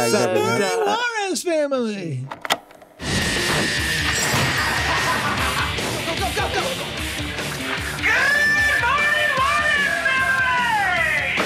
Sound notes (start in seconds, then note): 2.3 tape rolling; 4.6 Dennis laughs